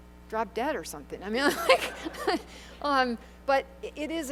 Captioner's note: laughter